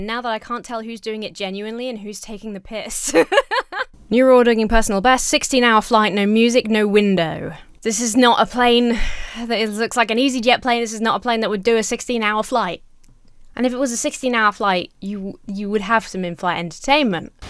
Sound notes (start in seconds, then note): 3.0 laughs